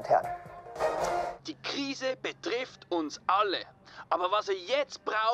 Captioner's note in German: Ton aus dem Fernseher